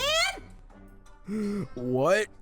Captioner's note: gasps